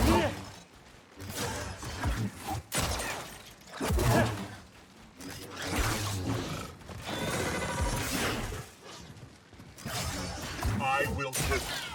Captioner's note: gunshots